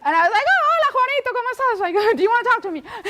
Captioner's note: speaks foreign language